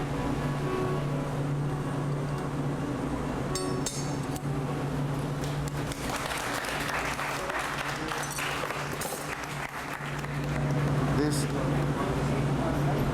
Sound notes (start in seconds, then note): 3.5 clinking; 5.4 clapping